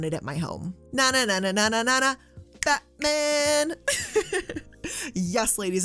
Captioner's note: laughs